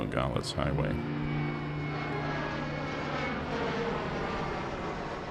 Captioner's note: airplane engine purrs